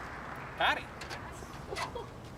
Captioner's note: laughs